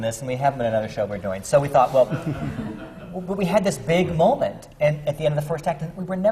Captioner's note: laughter